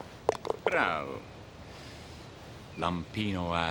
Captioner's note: golfer speaking foreign language